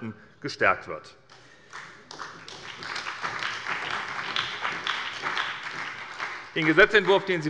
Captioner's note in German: Beifall bei der SPD und Abgeordneten des BÜNDNISSES 90/DIE GRÜNEN